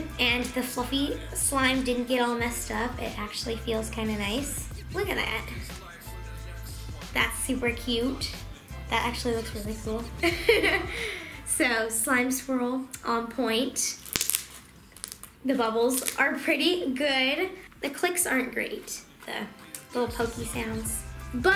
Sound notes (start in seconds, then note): 10.2 laughing; 13.8 crackling